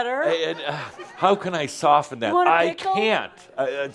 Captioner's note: more chuckles